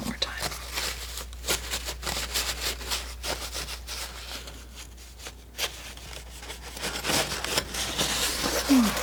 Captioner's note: scratching